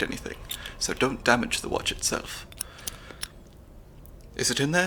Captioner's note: metallic disassembly sounds